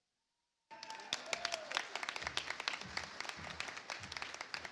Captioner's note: audience applauds